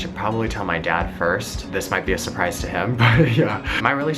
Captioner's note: laughs